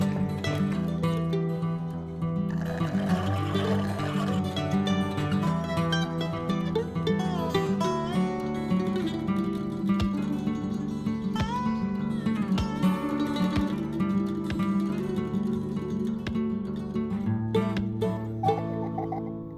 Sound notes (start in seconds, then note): 0.1 pop pop sounds; 2.3 drinking through a straw sound; 10.3 kicking football sounds; 18.4 sound of child laughing